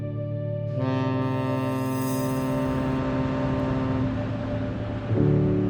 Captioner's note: ship horn sounding